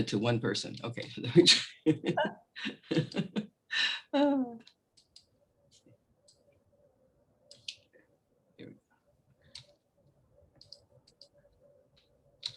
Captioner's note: laughs